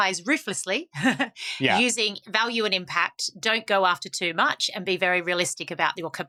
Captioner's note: chuckles